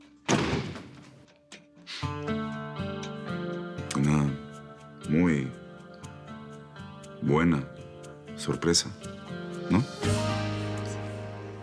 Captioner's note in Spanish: Portazo